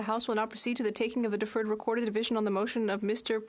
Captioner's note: speaking French